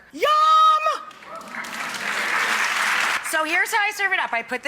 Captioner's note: applause